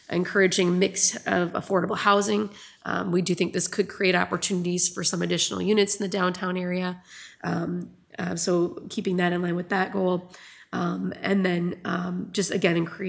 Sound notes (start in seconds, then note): none